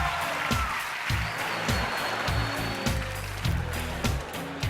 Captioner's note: laughter